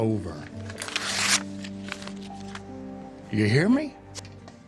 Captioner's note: somber music; paper tearing